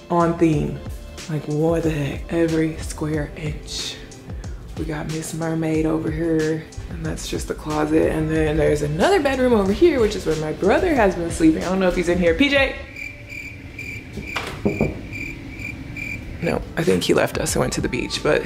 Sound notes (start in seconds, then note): 12.8 crickets chirping; 14.1 knocks